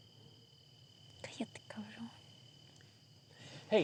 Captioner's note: speaking spanish